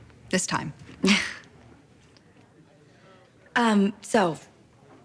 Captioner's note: Alison laughs